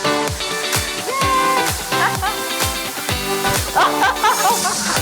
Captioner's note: upbeat music; laughs